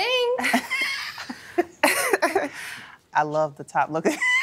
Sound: laughter; laughing

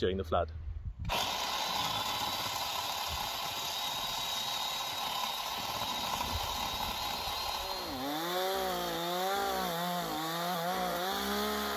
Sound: chainsaw noise

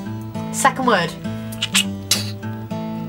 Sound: shooting noise

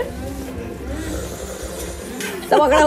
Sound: slurps

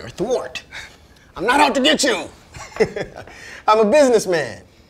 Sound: laughs

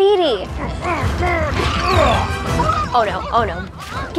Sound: Maui grunting

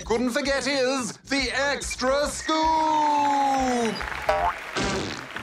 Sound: applause

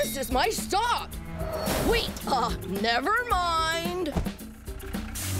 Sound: deep voice; tires screech

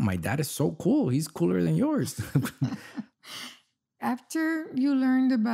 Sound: laughs

